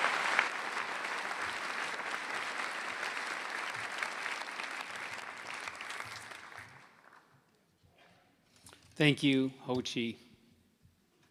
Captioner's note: spanish; applause